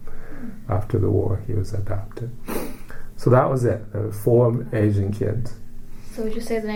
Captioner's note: sniffs